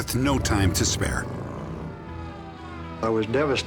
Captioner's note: sirens